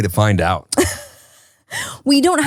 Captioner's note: laughs